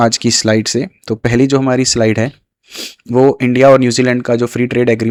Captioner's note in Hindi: नाक से की जाने वाली आवाज़